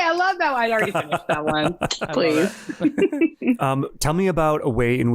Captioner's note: all laughing